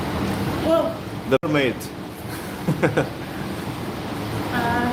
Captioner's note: chuckles